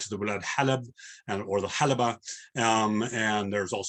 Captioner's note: non-english